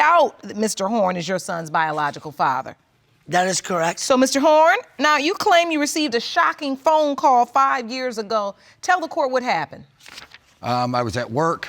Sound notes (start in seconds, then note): none